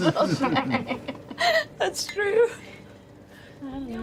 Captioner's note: laughs